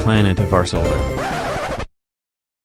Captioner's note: record scratches